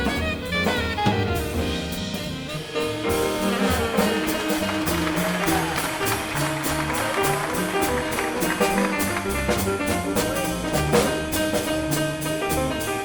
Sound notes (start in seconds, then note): 4.9 audience applauds; 6.5 three-piece jazz music